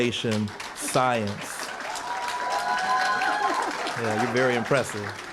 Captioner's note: cheering & applause